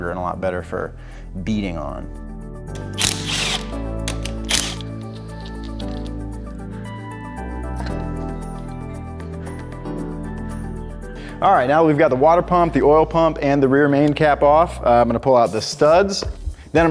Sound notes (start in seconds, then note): 2.7 driller drilling; 2.7 bright music